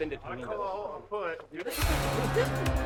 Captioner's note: tense music; students chattering